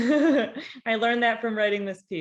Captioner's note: laughing